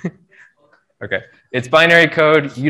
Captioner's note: laughs